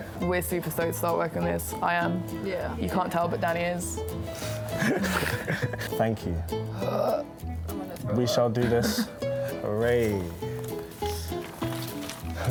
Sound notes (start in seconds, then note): 4.6 laughs; 6.9 burps; 8.6 laughs